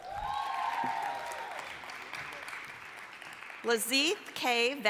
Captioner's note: applause, cheering